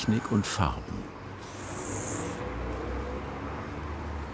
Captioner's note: hissing spray sounds